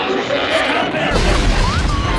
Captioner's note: crash; Blue's Clues-esque sound effect